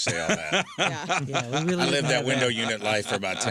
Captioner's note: laughing